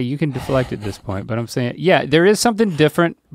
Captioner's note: chuckling